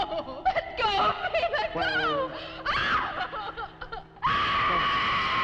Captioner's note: Nan screaming; screams